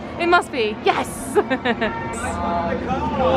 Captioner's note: laughs